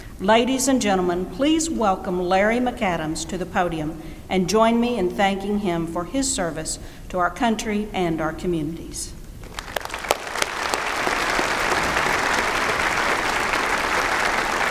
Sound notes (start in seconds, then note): 9.4 applause